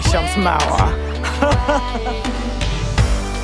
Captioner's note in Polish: śmieje się